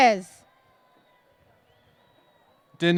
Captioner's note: cheers and applause